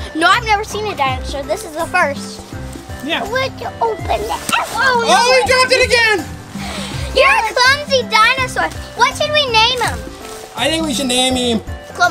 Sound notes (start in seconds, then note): 4.1 egg hits with thud